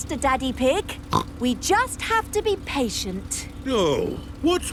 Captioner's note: snorts